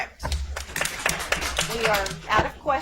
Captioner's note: audience applauds